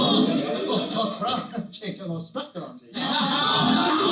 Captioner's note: Rodney Dangerfield Voice